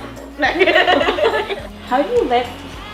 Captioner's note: laughs